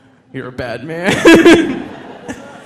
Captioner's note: laughs